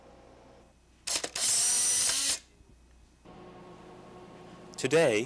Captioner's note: sound of camera